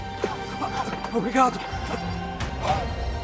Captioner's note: breathing heavily; in English; panting; breathing heavily